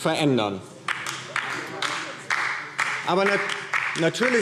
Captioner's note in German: Beifall DIE LINKE